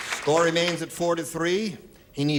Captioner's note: applause